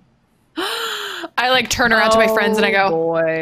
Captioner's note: gasps